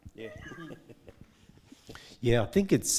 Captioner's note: man laughing